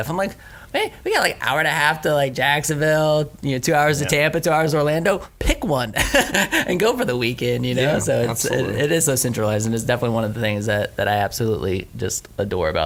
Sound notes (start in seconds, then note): 5.9 laughing